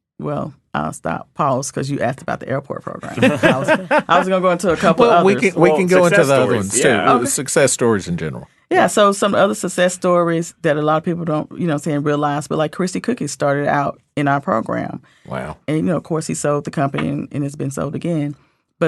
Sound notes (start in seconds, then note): 3.0 laughing